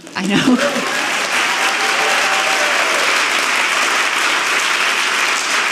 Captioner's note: audience clapping